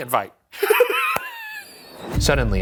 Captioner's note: laughs